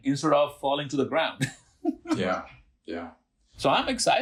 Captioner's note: laughing